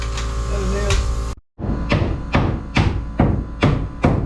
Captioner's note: motor whirring